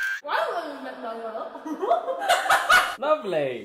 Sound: camera snaps; speaks with mouth full of cookie

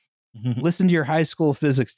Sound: chuckles

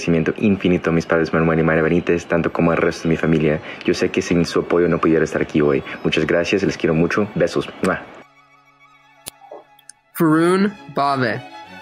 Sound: non-english speech

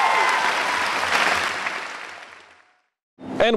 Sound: applause

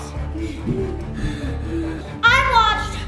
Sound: panting

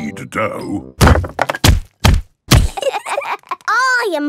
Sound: banging

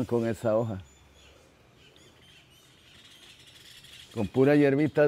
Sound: birds chirping

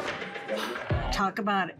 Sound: reviewer gasping

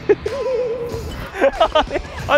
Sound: hahaha

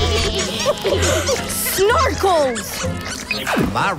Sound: gasp

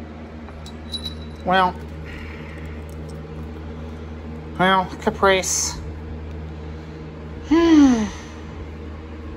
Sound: Caprice sighs

